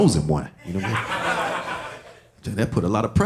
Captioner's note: audience laughing